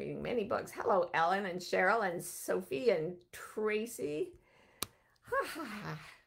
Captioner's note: laughs